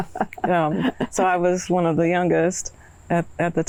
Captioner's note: laughing